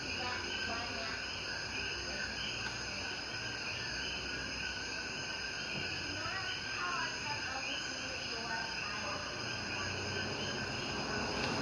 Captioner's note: crickets and chatter